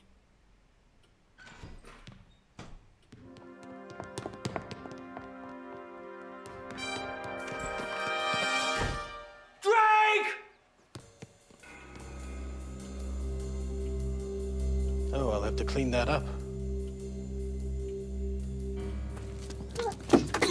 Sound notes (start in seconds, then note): 0.0 thudding; 1.4 door squeaking; 3.3 dramatic music